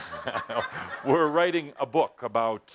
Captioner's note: laughter